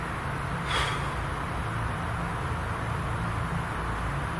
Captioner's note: strong exhale